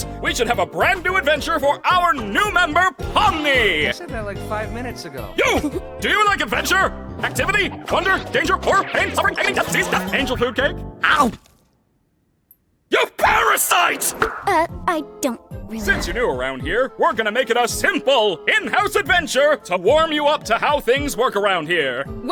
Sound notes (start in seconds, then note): 11.1 chomp!